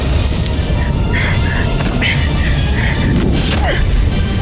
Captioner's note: grunts; wind howling; grunts; thuds